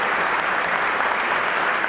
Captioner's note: applause